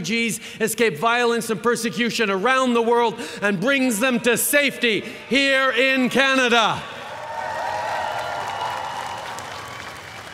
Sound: cheering

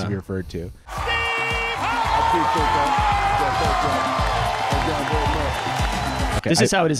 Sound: cheering and clapping

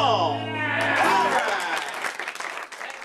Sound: audience applauding

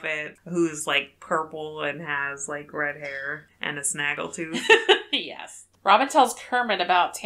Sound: laughs

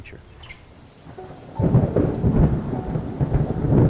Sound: thunder rumbles

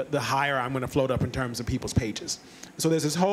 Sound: none

